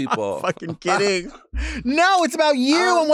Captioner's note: laughs